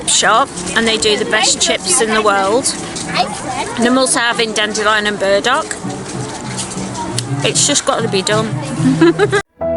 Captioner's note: giggles